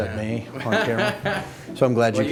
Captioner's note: laughing